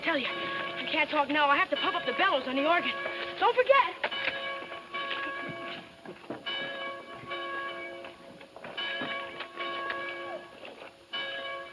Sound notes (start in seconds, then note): 4.8 bells ringing